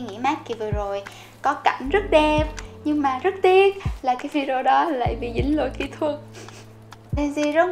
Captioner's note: sniff